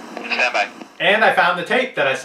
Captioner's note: voiceover